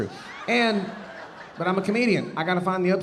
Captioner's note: audience laughing